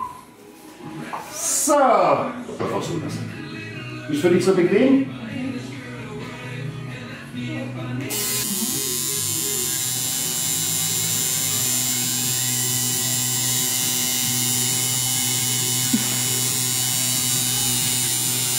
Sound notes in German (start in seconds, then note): 8.0 tätowier geräusch